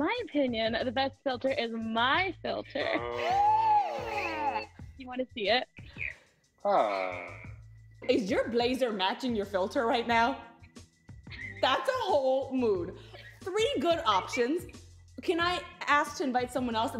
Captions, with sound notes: - In my opinion, the best filter is my filter. - Oh. - [gasps] - Do you wanna see it? - Aww. - Is your blazer matching your filter right now? - [laughs] - That's a whole mood. Three good options. Can I ask to invite someone else?